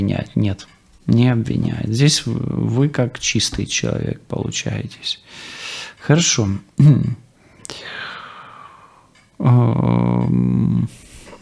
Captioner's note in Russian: откашливается